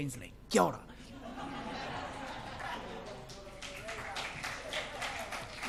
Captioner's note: speaks in foreign language; crowd laughs; crowd applause